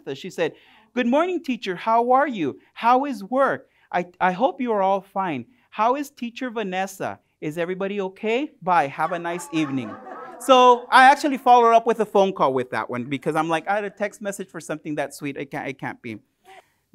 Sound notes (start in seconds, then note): 8.9 laughter